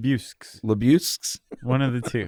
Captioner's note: chuckles